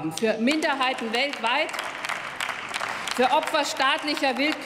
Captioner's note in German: Applaus